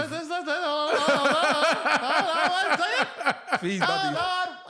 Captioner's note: laughing